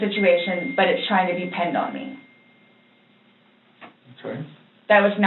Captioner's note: cell phone dings